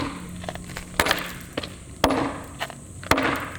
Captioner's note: hammering